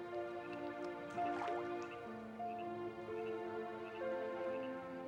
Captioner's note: rock plops